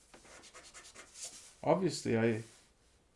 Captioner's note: pencil eraser scratching